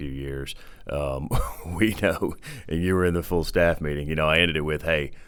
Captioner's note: chuckling